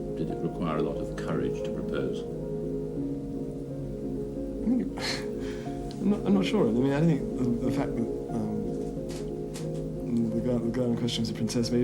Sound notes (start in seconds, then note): 7.6 stammers